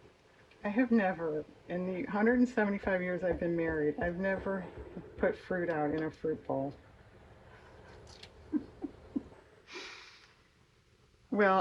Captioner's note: laughs